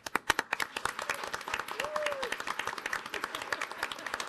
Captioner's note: audience applauding